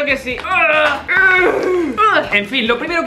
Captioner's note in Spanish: gruñidos